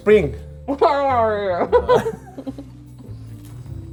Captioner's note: mumbles around calzone; noises of enjoyment from both